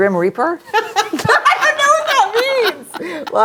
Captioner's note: laughs